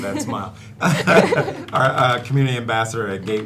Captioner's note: all laughing